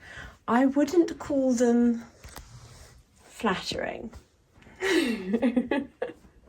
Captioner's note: laughs